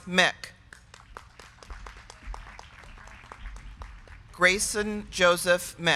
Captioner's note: crowd clapping